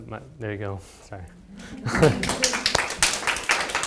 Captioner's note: laughs; audience clapping